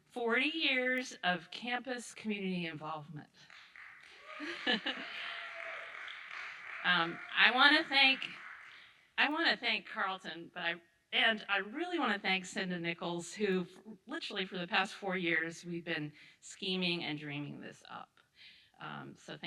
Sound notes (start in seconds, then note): 3.5 audience applauding